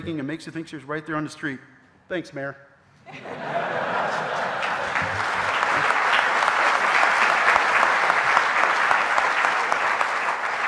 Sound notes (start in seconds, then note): 3.1 audience laughing; 3.7 audience applauding